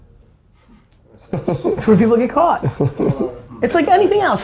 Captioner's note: laughing